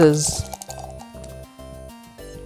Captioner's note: dice rolling; dice rattling